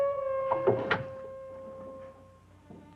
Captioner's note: door thuds; soft brooding music